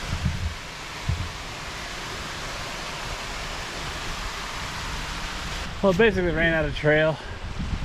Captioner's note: water splashing